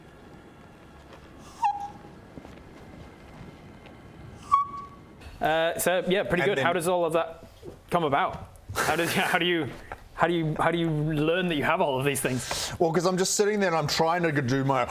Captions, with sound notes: *heartbroken squeak* *my-disappointment-is-immeasurable-and-my-day-is-ruined squeak* So yeah pretty good, how does all of that come about? how do you how do you how do you learn that you have all of these things? Well cos I'm just sitting there and I'm trying to do my